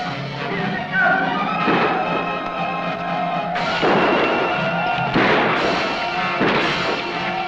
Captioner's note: suspenseful music; gunshots blasting; Yaqui shouting